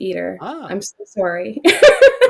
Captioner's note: laughs